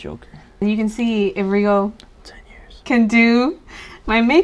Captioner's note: whispers